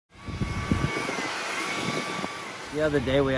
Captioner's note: chainsaw buzzing